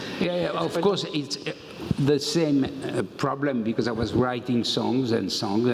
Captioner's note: none